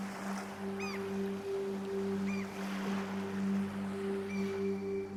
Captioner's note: bird squawks